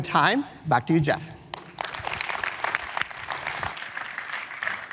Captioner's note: applause